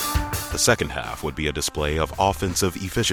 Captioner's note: voiceover